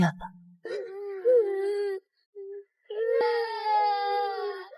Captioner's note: crying